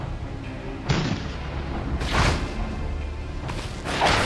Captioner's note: another cannon fire